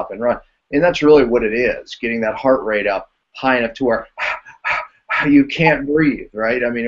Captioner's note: panting